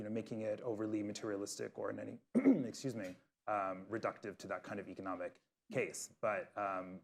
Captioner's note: coughs